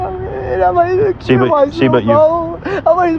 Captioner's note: cryrying